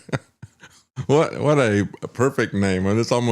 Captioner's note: laugh